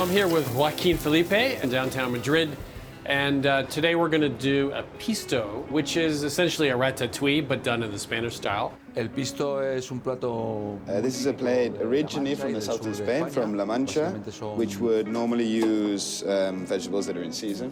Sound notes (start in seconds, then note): 8.8 speaking Spanish